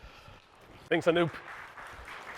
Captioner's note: applause